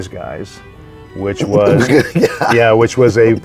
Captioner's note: laughing